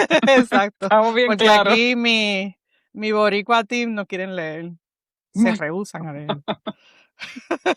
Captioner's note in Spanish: risas; risas